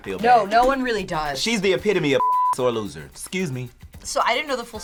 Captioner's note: beeping